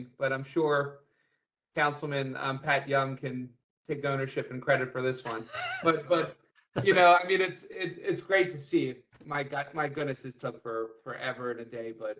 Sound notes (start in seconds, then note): 5.2 laughter